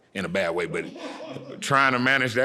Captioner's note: audience laughing